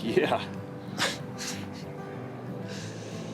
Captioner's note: chuckles; Allen chuckles